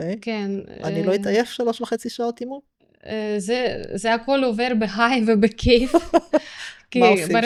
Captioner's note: laughter